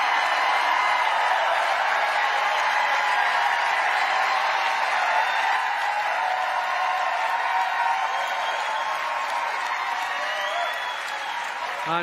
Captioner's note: cheering